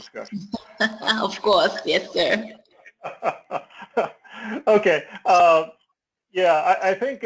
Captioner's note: laugh